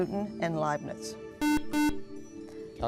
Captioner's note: buzzer